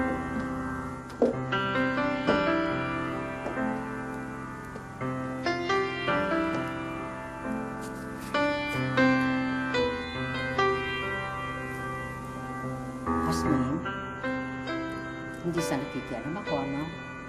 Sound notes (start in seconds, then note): none